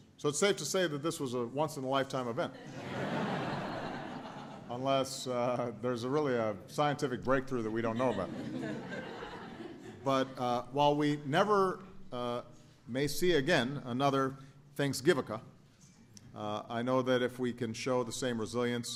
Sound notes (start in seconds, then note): 2.5 laughter; 7.8 laughter